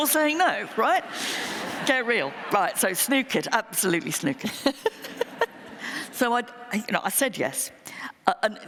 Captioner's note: laughter